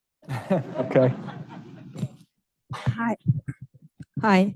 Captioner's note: audience chuckling